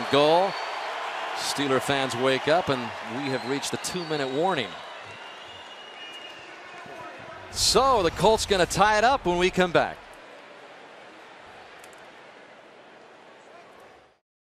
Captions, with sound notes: on fourth and goal. Steeler fans wake up. And we have reached the 2-minute warning. [pa announcement] So the Colts going to tie it up when we come back.